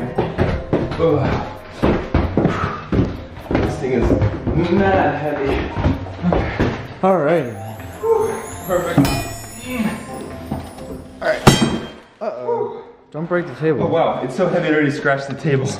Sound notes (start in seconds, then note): 9.3 clink